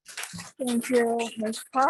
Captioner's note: audience clapping